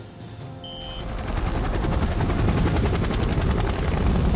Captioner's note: helicopter blades whirring